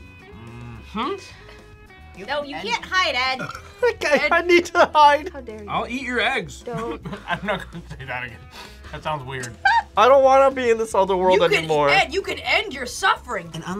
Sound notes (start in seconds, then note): 3.2 burps; 9.4 laughs